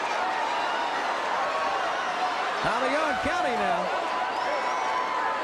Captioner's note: crowd cheering